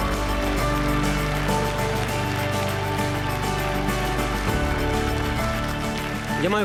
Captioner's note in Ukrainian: оплески